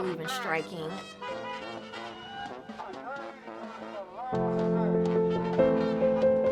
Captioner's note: instruments playing; protestors chattering; melancholy music